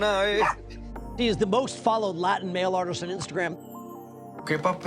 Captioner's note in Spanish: hombre en inglés; en español